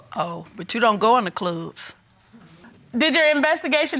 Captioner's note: sarcastically